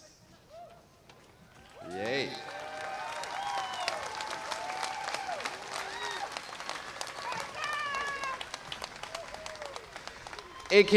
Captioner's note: applause